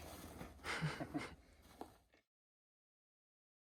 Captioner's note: laughs